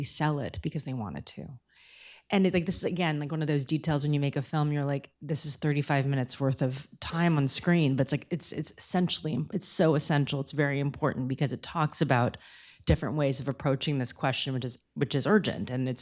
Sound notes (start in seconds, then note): none